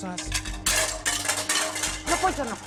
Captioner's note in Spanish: Estruendo